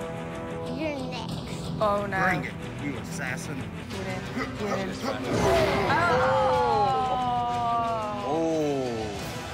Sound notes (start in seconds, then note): 4.2 grunting; 5.1 cries out